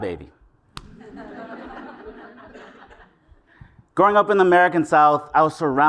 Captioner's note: laugh